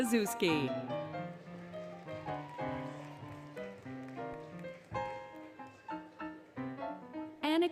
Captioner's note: applause, Cheering, Music